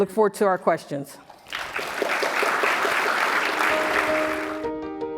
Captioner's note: applause